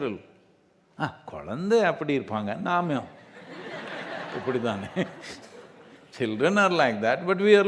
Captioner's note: laughter